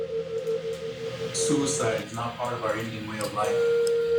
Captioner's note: voiceover